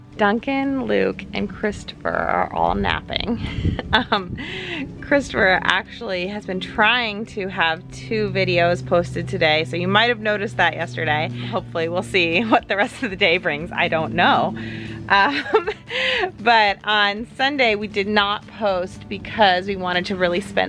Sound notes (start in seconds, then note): 3.3 laughs; 15.0 laughs